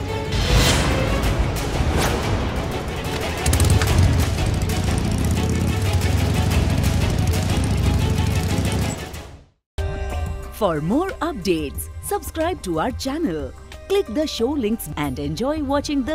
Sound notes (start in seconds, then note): 0.1 dramatic music; 3.0 bike engine starting